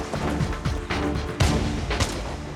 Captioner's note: rifle shooting